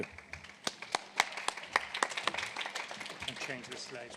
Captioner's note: applause